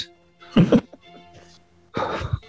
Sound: giggling

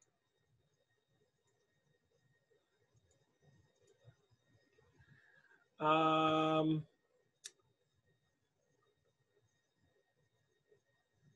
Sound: silence

